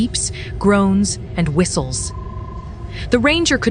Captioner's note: Ironholg's rasps & whistles